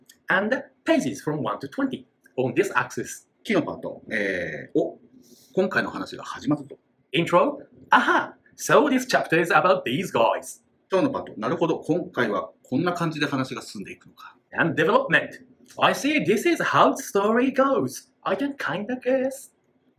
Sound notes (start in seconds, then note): 3.3 speaking Japanese; 10.6 speaking Japanese